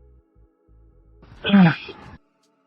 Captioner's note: sigh